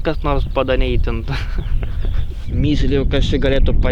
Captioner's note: laughs